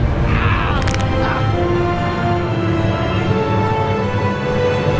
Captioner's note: man shrieks; bones cracking; light dramatic music